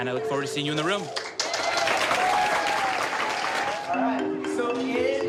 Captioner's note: applause